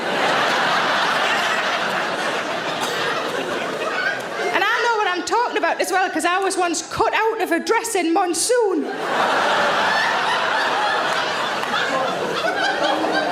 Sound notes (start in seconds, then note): 0.0 audience laughs; 8.8 audience laughs